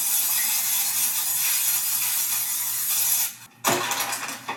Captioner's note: can hissing